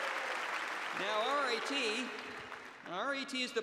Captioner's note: cheers and applause